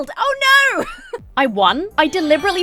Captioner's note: laughs